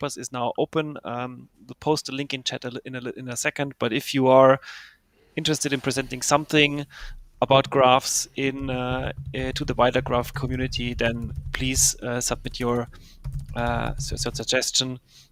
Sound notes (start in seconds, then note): none